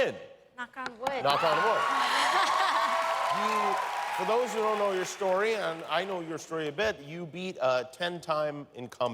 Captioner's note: cheers and applause